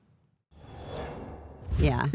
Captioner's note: air whooshing